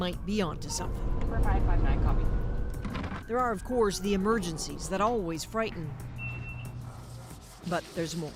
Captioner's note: sirens